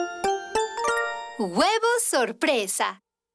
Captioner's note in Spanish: narradora leyendo